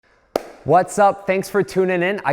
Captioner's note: claps hands